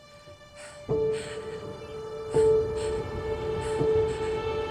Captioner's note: pensive music; Evelyn panting